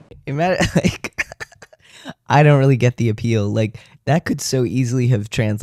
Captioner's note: laugh